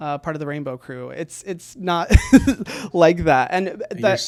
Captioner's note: laughs